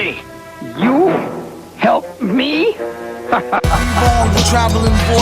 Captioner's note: laughs